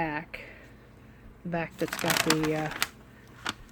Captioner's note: paper crinkling